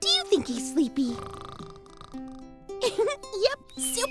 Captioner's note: snoring